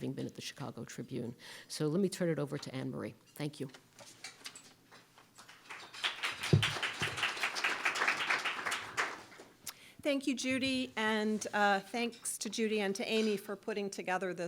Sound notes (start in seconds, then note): 5.4 applause